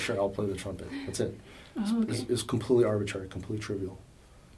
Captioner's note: laughs